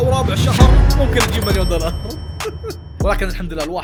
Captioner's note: chuckles